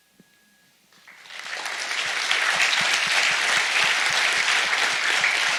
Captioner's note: audience applauds